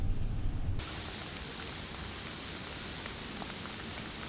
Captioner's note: water splashing